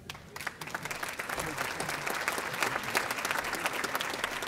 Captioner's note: audience applauding